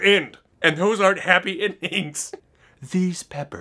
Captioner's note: laughs